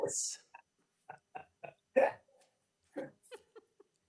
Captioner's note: members chuckling